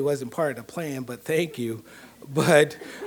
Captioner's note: laughs